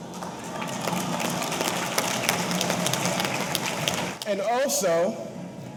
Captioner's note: audience applauding; audience cheering